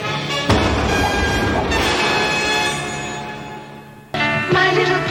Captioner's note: triumphant music; explosion booms